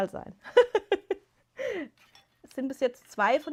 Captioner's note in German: gelächter